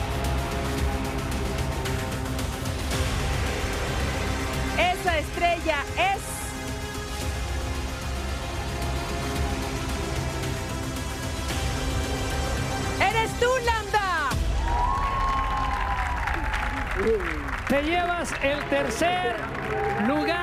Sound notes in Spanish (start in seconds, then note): 17.0 vítores